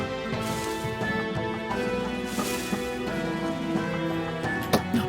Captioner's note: more bush rustling